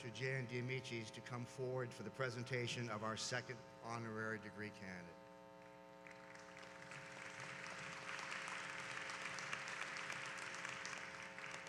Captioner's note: applause